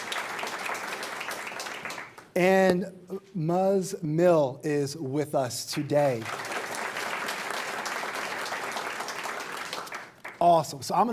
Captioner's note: applause